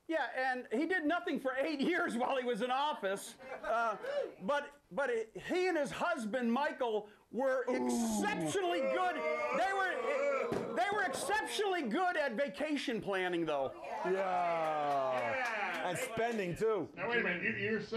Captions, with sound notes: - YEAH, AND HE DID NOTHING FOR EIGHT YEARS WHILE HE WAS IN OFFICE, BUT HE AND HIS HUSBAND, MICHAEL, WERE EXCEPTIONALLY GOOD, [Audience boos] THEY WERE EXCEPTIONALLY GOOD AT VACATION PLANNING, THOUGH. - AND SPENDING, TOO.